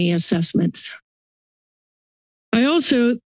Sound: silence

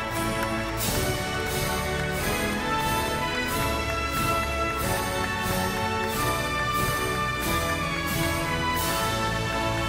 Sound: applause

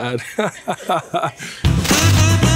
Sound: laughs

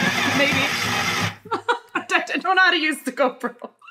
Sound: processor whirring

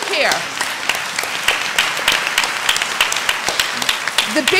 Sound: applause

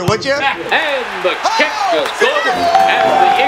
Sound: cheering

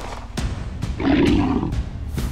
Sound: CREATURE growls

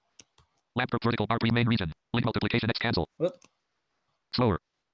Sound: screen reader reads fast

